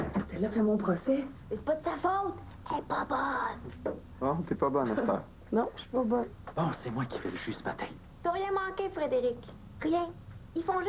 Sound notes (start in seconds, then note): 2.5 Chuchotant